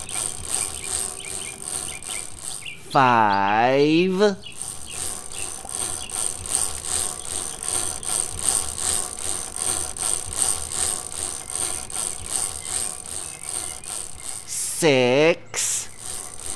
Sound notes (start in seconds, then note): 0.0 chain cranking; 5.4 chain cranking